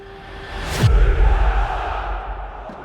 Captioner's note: crowd chanting